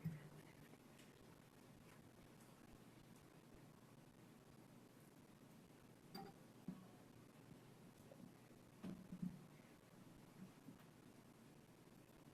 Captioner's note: audio distortion